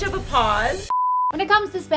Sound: beep

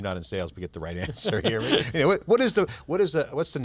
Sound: laughter

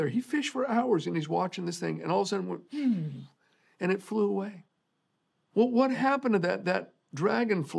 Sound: mimicking sound

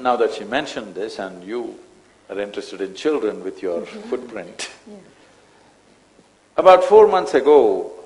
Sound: laughs

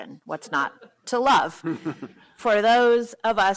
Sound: laughter

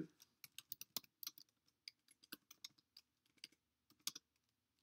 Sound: keyboard typing

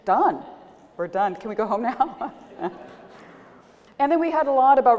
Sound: laughter

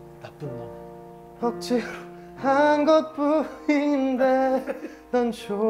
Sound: failed holding in his laughter

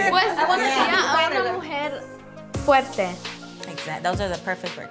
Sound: speaks in foreign language

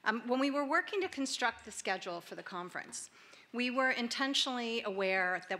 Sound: none

